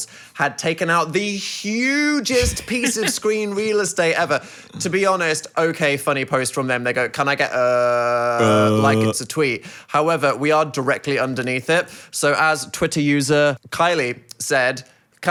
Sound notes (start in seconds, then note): 2.3 chuckles